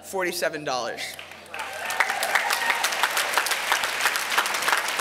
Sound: applause

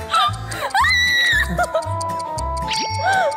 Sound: shuddering

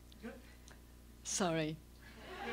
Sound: laughter

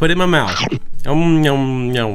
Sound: chomping sound

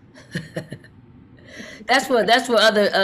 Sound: chuckles

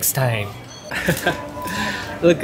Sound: chuckles

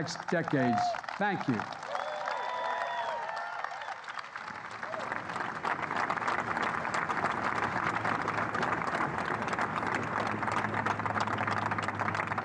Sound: applause

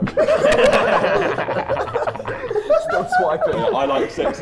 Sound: Sidemen laugh

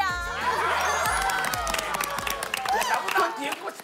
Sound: laughing

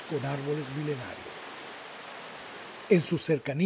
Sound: water falls

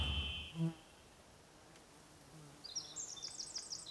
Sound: insect buzzing; bird chirping

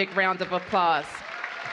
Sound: applause

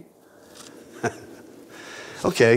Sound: laughing

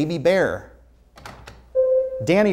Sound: buzzer sounds

